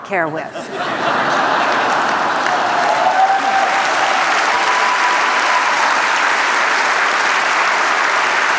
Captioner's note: laughter, applause